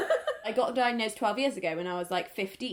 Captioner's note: laughs